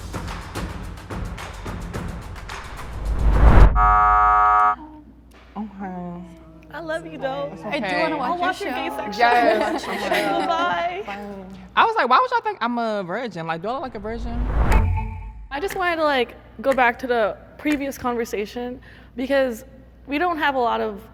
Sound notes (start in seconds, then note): 0.0 intense rhythmic music; 3.7 buzzer sounding